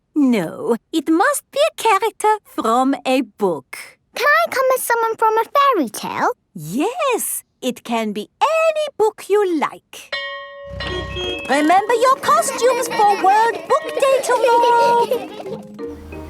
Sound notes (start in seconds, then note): 10.1 school bell ringing; 15.0 kids giggling